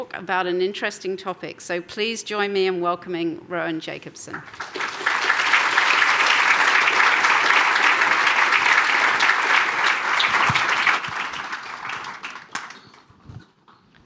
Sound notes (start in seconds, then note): 4.2 applause